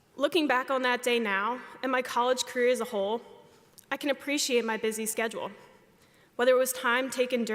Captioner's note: none